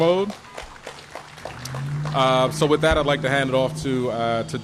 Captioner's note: applause